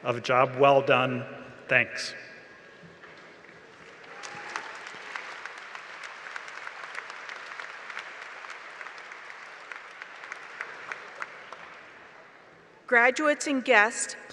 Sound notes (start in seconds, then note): 3.7 applause